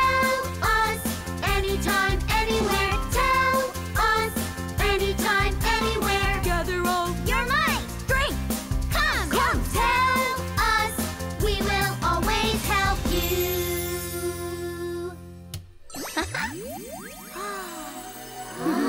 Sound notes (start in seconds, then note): 16.0 chuckles